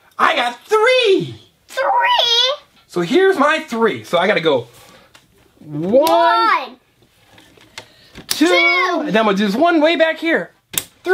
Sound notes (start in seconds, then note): 0.0 voiceover; 1.9 voiceover